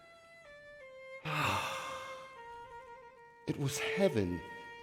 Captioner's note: sighs